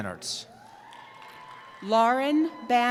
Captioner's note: cheering